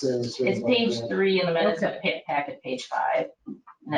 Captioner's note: speaking faintly